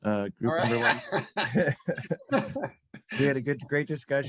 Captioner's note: group laughs